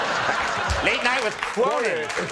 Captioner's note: crowd laughing